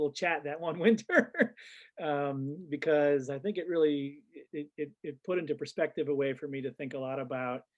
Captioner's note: laughs